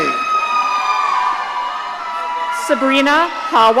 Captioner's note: audience cheering